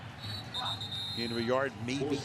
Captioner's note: whistles